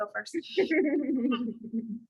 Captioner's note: laughter